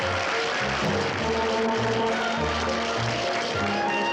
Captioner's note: audience applauds